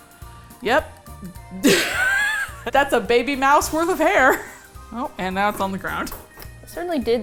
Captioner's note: gasps